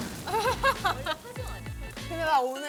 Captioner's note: gulp